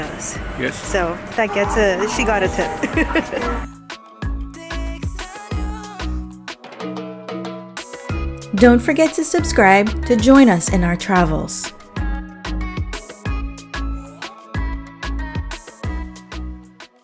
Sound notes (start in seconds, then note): 2.1 laughing; 5.3 upbeat music